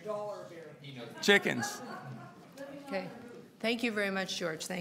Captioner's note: laughter